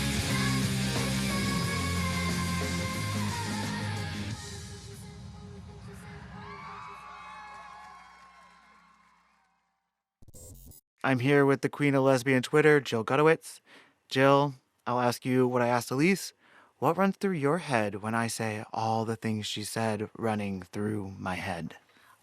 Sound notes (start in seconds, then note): 0.0 singing; 10.0 cheering